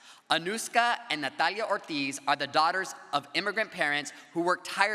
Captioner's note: none